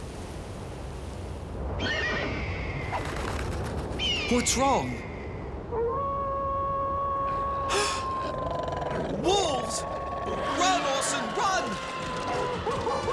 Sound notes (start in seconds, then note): 5.6 wolf howling; 7.7 wolves growling